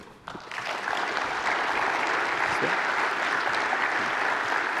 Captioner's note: applause